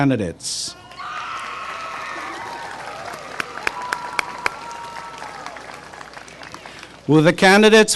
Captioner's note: applause and cheering